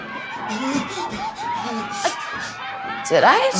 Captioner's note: Kirsch's panicked bro-breathing with excited yelling outside